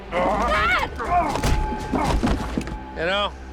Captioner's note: grunting